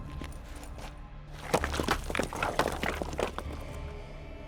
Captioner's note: rocks tumbling